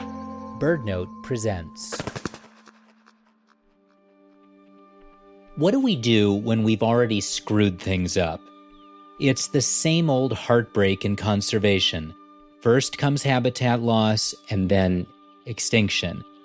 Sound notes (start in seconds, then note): 1.9 echoing Wingflaps SFX; 3.9 reflective Threatened theme music begins